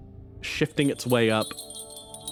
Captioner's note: bells